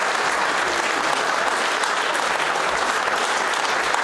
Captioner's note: applause